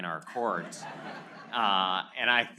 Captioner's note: laughter